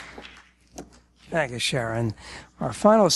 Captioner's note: applause